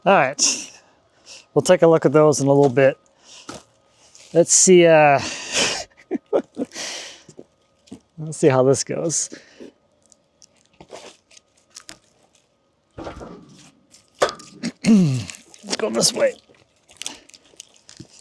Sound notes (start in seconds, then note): 5.2 chuckling; 14.6 clearing throat